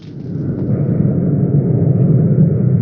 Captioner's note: airplane engine roaring